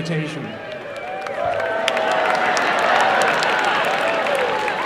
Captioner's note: cheering and applause